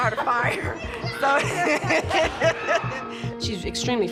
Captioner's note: laughs